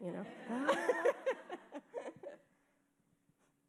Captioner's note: laughing